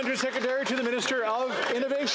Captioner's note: some Applause